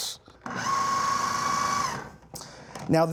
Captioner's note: whirring